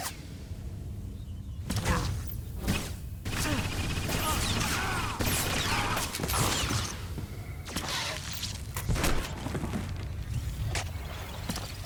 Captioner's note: grunting